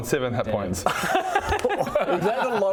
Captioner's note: happy laugh